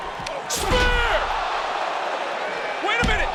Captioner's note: crowd cheering